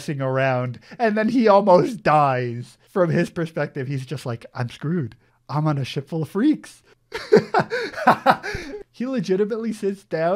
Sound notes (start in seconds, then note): 7.1 laughs